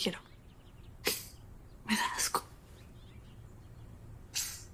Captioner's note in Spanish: Ríe